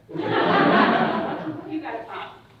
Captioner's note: audience laughing